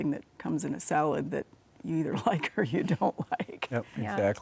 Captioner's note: laughs